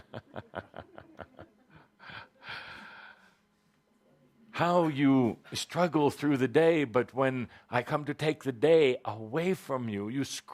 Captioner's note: Kuthumi chuckles